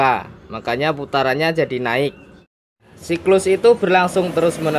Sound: engine

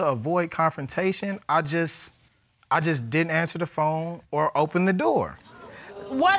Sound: none

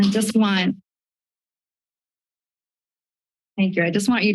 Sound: silence

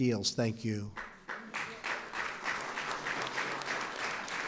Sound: applause

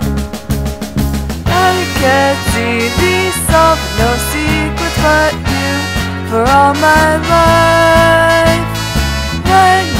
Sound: the dog is singing

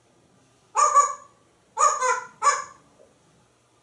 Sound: dog Barking Sounds

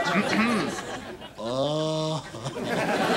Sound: <i>clears throat; <i>moaning

